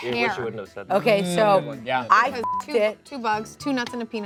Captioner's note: beep